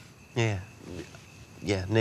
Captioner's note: stammers